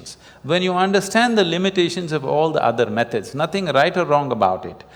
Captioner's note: none